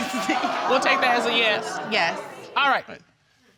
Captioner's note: audience exclaiming